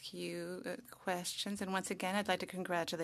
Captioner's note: speaking French